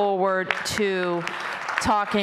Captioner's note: applause